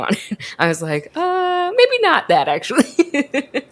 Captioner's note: laughs